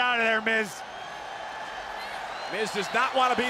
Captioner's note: crowd cheering